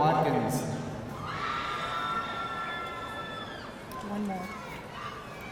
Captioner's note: audience cheering